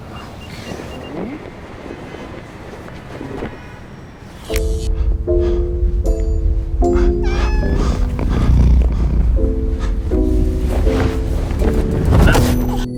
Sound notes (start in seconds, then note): 4.5 mysterious music; 6.8 cat meows, purrs; 11.8 grunts